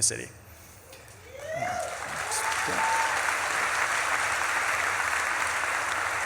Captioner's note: audience claps and cheers